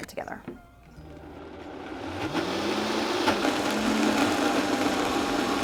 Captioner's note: blender buzzes